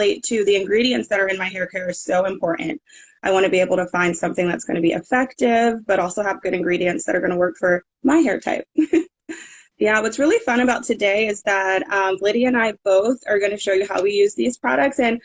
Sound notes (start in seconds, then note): 9.0 laughing